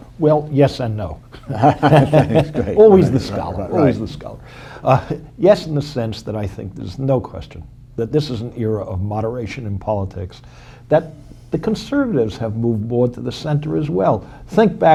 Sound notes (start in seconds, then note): 1.3 laughter